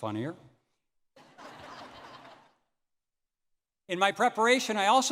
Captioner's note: audience laughing